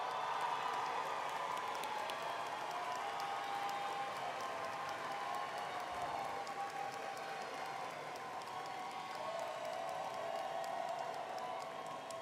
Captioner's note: cheering